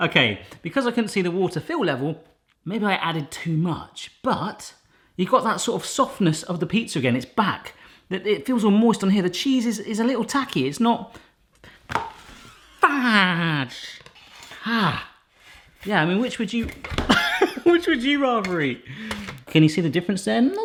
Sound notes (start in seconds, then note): 17.0 laughs